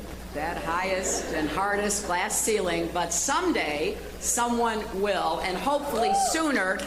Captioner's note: cheers and applause